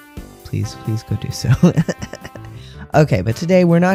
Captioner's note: laugh